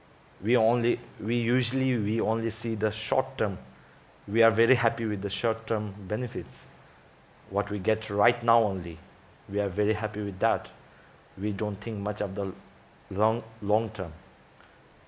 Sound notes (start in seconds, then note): none